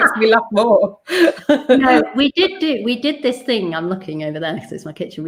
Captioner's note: laughs